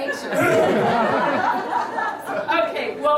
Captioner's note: laughter